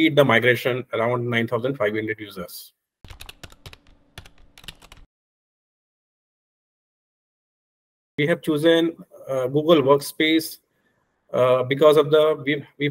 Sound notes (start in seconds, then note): 3.0 typing sounds